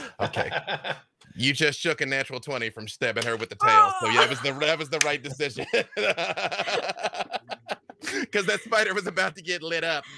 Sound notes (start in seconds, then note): 0.0 laughing; 5.5 laughs